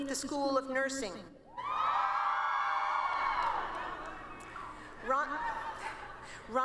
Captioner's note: cheering